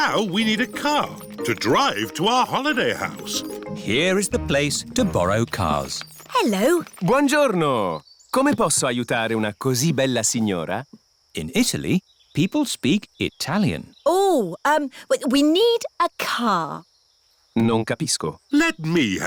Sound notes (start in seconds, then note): 8.4 speaks italian; 17.7 replies in italian